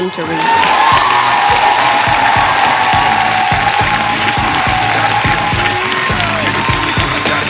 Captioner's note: applause